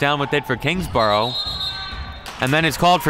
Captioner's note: referee blows whistle